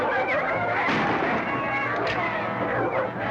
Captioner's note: gunshot